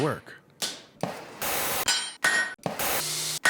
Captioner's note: rhythm of hammer and blowtorch